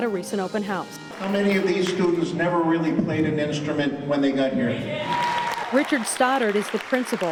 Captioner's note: cheering